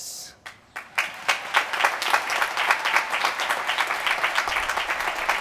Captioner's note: applause